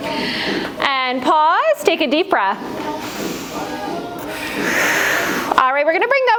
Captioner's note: breath